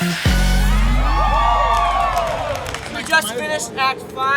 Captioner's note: energetic music; group cheering